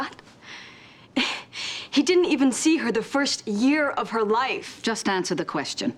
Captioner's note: scoffs